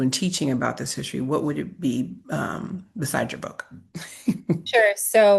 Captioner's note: laughs